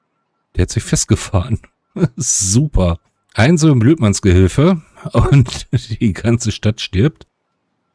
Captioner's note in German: gelächter